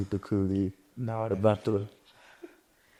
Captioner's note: chuckles